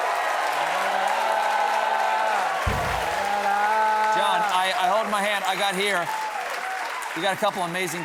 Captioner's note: cheers and applause